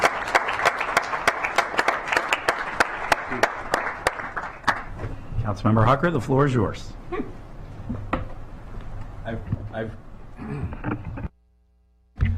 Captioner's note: clapping